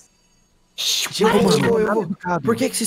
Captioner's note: shushes